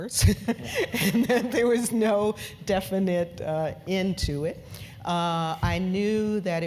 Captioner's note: laugh